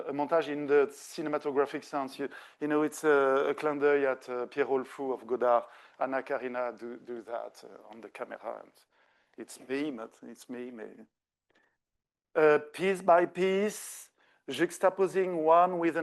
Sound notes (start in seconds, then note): 3.8 speaking French